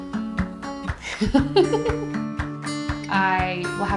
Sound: laughs

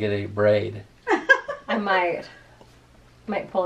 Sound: laughing

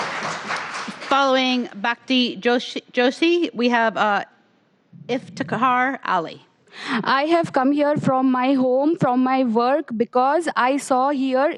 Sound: applause

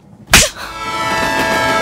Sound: slaps

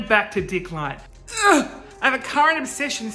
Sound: groans

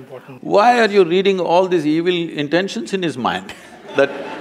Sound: laughter

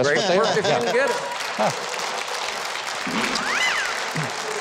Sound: crowd clapping

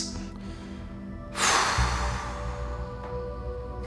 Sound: exhales

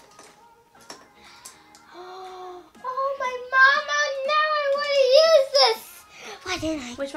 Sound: gasp

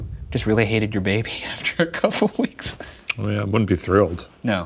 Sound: laughing

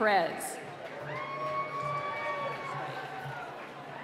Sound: cheering

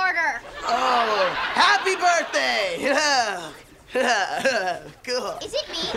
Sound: chuckles

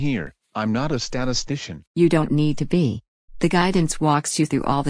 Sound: calmly

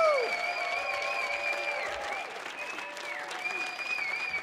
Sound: audience cheering

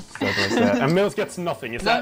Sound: amused chuckling

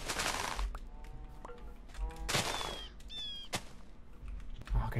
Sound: sugarcane breaking; sugarcane breaking

